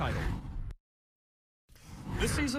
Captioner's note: air whooshes